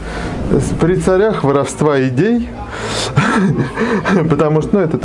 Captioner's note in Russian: смех